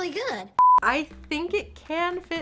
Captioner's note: audio beeping